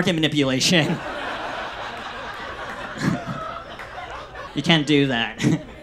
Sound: audience laughs

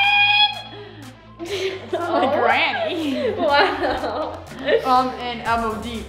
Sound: laughs

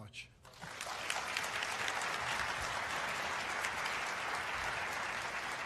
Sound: applause

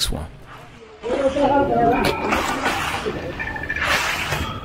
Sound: concrete rustling

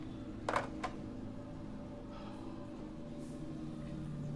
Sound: phone clicks

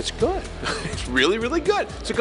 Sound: chuckling

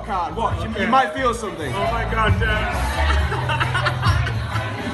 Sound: laughs

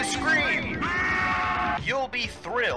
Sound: distorted scream

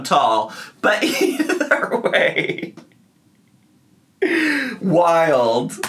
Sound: laughs

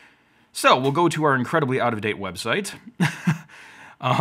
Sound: laughs

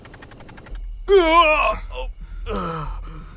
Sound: vomiting

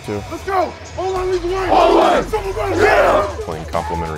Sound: team shouting

